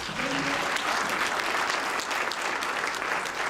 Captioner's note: applause